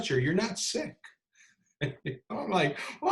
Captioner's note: laughs